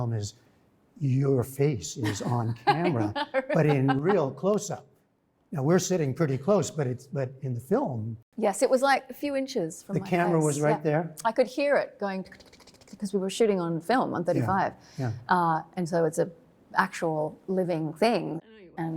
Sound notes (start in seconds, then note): 5.4 laughter